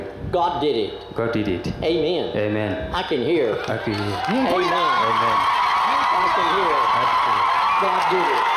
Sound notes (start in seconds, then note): 3.6 boisterous applause and cheering